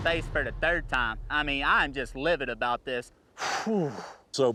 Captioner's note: exhales